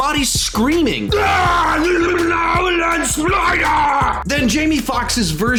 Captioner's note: screaming incoherently